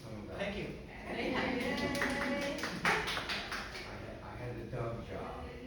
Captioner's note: panelists applauding